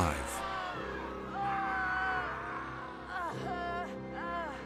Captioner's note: screams, cries